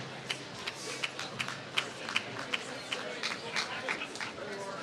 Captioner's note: applause